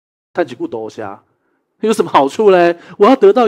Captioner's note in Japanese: 台湾語